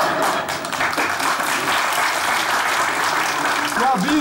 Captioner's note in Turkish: Alkış sesleri